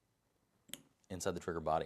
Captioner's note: click